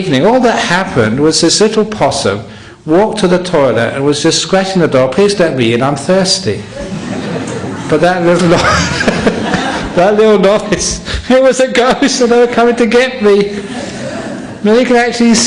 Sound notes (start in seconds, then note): 8.3 laughter; 11.2 laughs